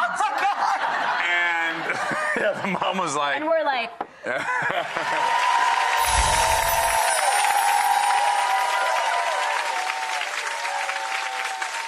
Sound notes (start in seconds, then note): 0.5 laughing; 4.9 audience cheering and applauding; 6.0 wind chime glissando